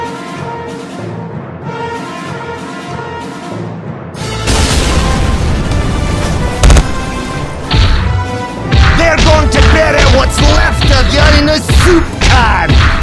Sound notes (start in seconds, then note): 4.4 kaboom!